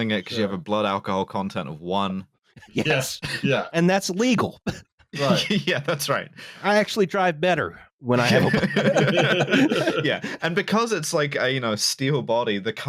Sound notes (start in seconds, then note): 5.1 laughing; 8.2 laughter